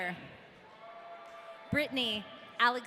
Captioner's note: audience cheering